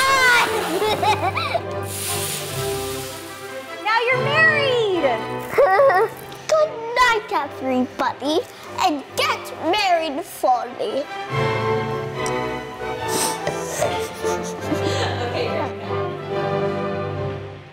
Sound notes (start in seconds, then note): 0.3 laughs; 5.5 boy giggles; 13.2 girl laughs; 15.6 laughs